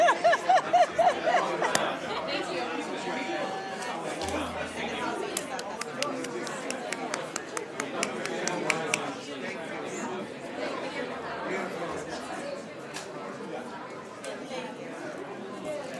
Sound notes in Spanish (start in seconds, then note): 5.3 Aplausos y aplausos